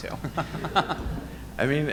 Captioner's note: audience laughing